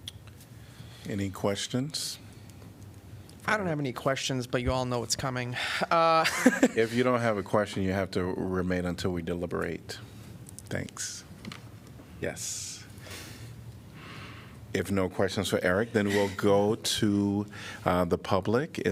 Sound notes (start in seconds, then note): 5.9 laughter